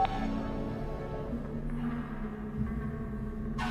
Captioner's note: phone beeps